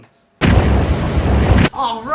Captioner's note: time Warping SFX